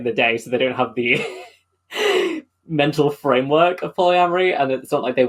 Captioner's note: laughs